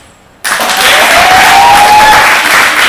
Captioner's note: clapping